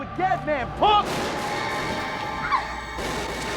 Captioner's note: gunshots